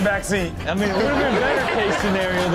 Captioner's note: audience laughs